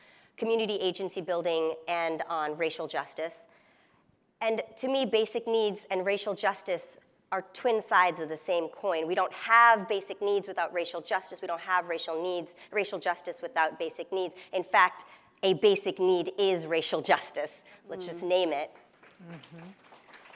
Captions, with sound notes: community agency building, and on racial justice. And to me basic needs and racial justice are twin sides of the same coin. We don't have basic needs without racial justice. We don't have racial justice without basic needs. In fact, a basic need is racial justice. Let's just name it! [Applause]